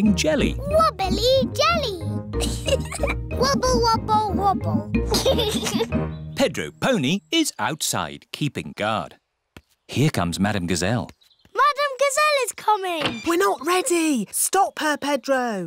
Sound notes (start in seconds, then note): 2.4 giggles; 5.0 giggles